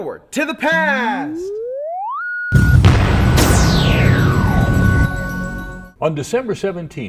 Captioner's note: sound Effects